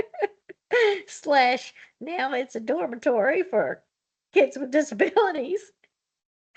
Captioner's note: laughs